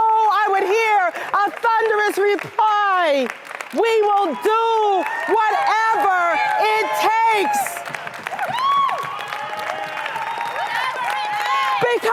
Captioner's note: applause